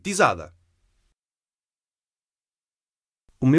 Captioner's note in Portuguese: Voz masculina